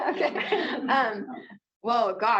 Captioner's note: laughter